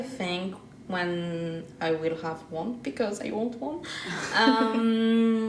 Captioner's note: laughs